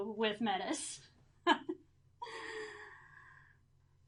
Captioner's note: laughing